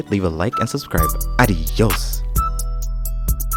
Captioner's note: foreign language; flute playing